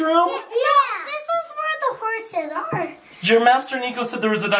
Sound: none

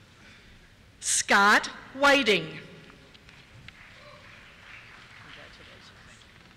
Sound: cheers

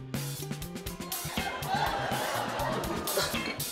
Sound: laughter

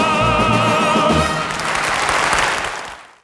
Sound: audience clapping

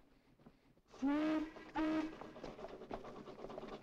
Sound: train whistle blowing

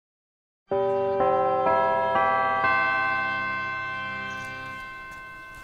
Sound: bells chime

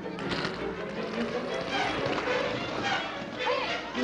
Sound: roller skates clattering

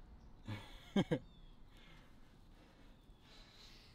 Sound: laughing

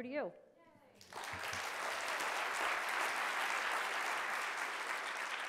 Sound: audience and Nancy applauding

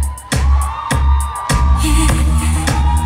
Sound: audience cheers

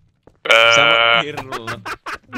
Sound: laughs

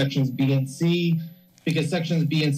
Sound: microphone rustling

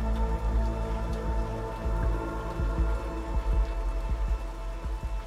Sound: heart beating fast

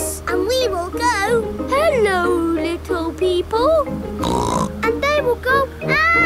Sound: snorts

